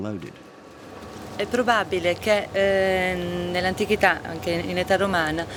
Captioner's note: speaking Italian